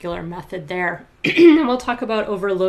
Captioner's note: clears throat